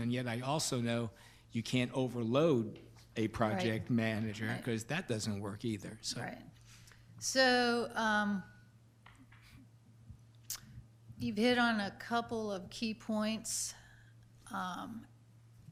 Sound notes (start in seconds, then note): none